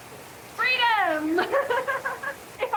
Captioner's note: laughing